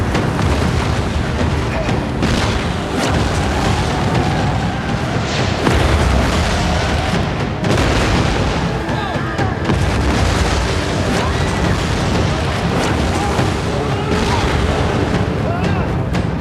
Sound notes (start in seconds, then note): 4.4 tires screeching; 11.0 screams